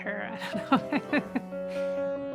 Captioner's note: laughing; piano playing intensifies and subsides